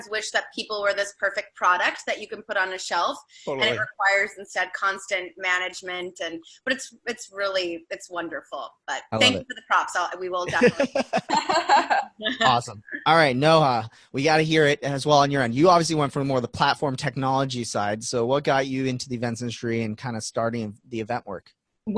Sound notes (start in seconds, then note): 10.4 women laughing